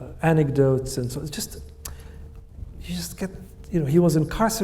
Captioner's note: clicks tongue